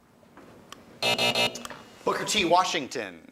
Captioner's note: alarm buzzes